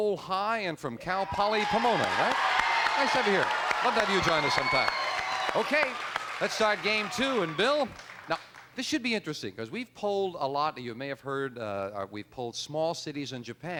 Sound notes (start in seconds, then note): 1.7 cheers and applause